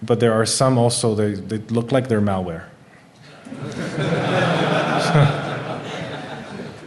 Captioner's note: laughing